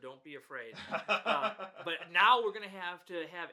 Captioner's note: laughs